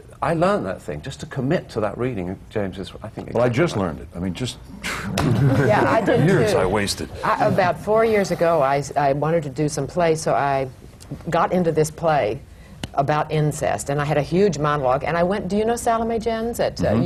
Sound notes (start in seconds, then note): 4.9 laughter